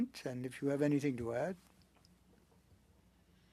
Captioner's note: speaking French